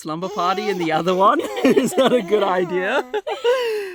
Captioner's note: laughing